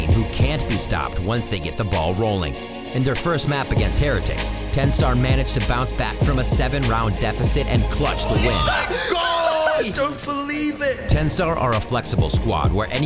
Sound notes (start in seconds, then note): 7.8 players yelling